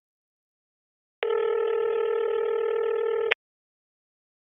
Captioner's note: phone ringing